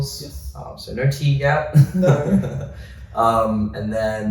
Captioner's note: chuckles